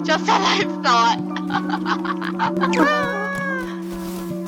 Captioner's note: laughing